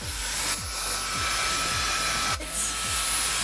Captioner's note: dryer whirring